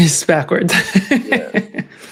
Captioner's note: laughs